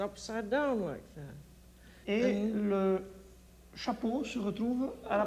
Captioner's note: speaks French